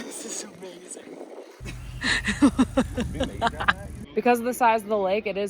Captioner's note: laughs